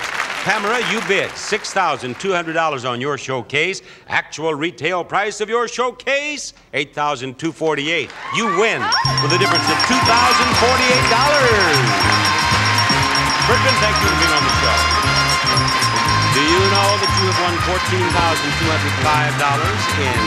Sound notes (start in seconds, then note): 8.1 bell dinging